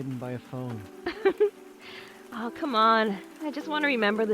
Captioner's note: laughs